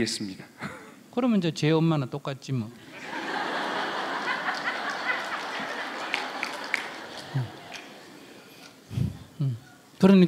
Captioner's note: audience laughs